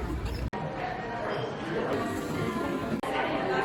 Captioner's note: cafe noise and people chatting